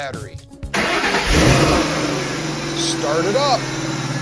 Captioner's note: engine Starts